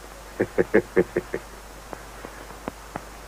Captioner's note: chuckles